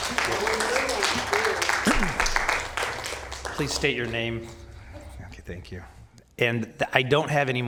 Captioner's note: applause